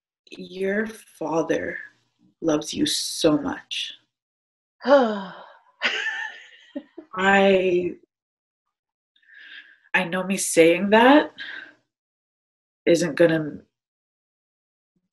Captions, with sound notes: - Your father loves you so much. (sighs) (chuckles) I know me saying that isn't gonna make it stick anymore.